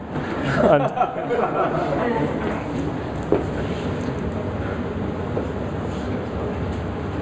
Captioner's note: audience laughs